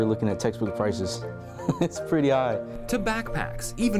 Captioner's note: chuckling